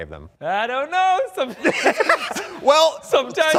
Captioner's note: all laugh